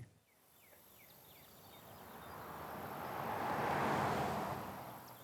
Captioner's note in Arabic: هدير محرك السيارة